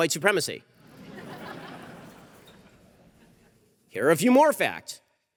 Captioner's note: audience laughter